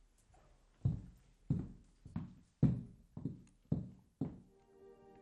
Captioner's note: footsteps thudding